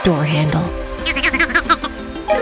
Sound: laughing

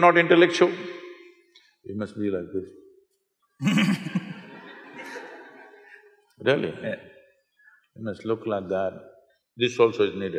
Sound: laughter

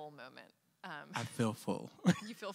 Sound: chuckling

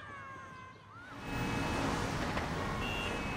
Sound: none

